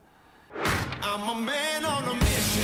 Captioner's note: swoosh